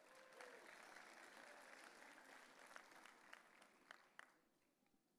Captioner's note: audience cheering